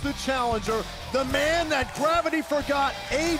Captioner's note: crowd cheering